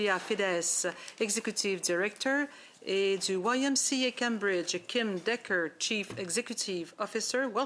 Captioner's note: speaking French